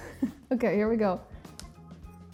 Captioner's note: laughs